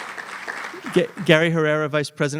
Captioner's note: applause